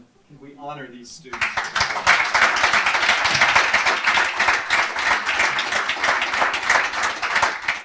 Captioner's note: applause